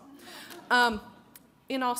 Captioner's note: audience laughs